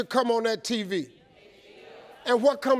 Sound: crowd

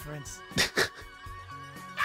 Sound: laughter

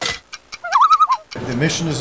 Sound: loon call

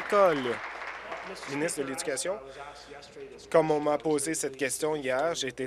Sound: applause

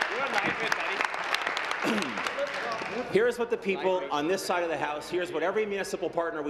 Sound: applause

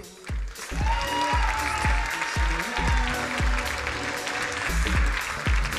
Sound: crowd cheering and applauding

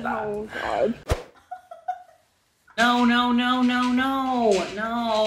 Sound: woman giggling

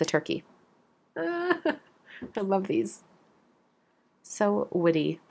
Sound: laughs

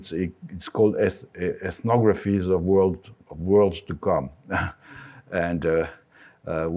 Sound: laughs

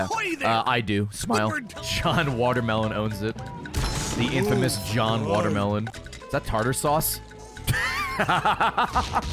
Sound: laughs

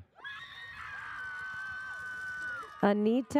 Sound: audience cheers

